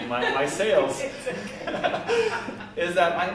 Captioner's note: laughter